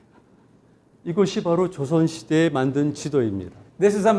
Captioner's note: speaking in Korean